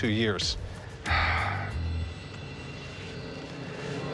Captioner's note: exhales